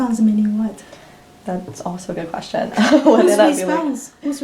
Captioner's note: all laugh